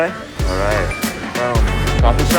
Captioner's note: watch chimes